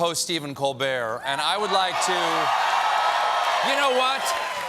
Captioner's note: cheers and applause